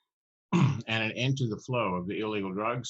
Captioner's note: clears throat